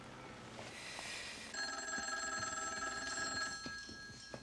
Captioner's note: telephone ringing